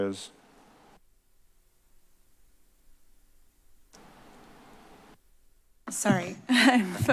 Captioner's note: silence